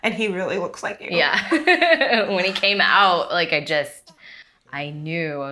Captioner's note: chuckles